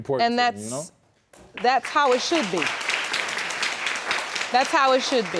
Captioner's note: audience applauding